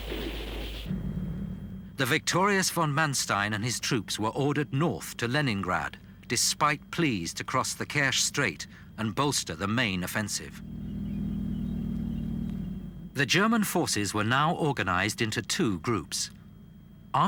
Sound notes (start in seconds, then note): 0.1 guns firing; 10.5 wheels squeaking; 11.4 engines rumbling